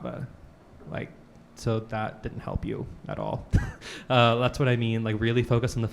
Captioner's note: chuckles